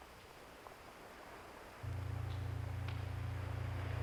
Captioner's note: low buzzing tone